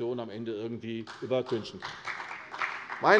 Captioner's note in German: Beifall